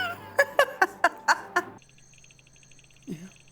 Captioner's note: laughing